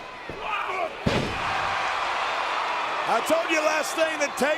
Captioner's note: audience cheering